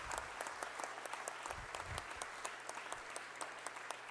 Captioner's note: applause